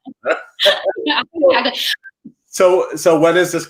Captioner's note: laughing